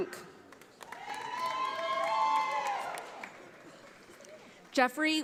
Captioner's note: audience applauding